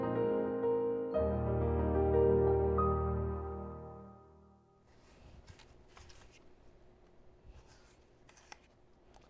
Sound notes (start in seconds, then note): 0.0 lighthearted music continues; 5.1 apple crunching